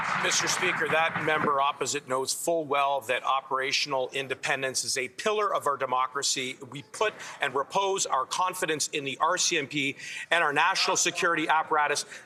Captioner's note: applause